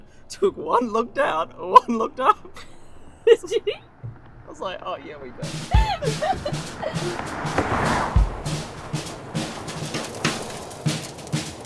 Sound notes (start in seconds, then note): 1.5 laughing; 5.4 upbeat music